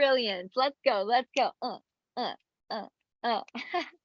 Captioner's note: chuckles